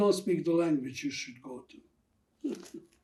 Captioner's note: laughing